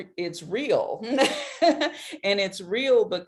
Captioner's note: laughs